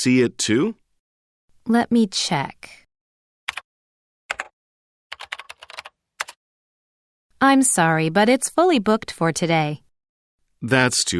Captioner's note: typing sound